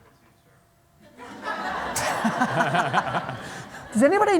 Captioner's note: laughter